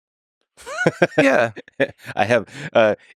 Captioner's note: Lex laughing